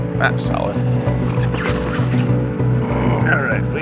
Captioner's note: rope rustling